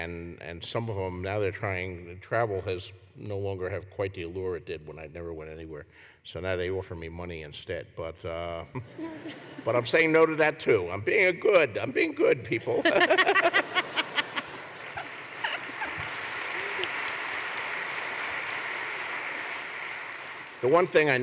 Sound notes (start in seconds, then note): 13.2 applause; 14.4 laughter